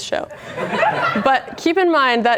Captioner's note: laughter